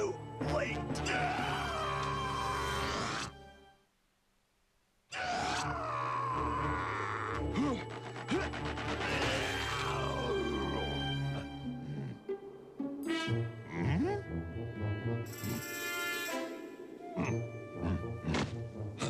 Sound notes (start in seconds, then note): 8.4 grunting